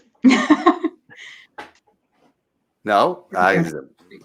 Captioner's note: chuckles